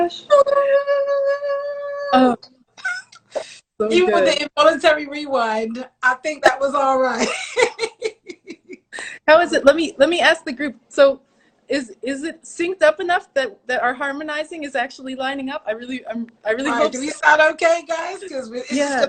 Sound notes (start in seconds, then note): 2.8 laughs; 7.2 laughs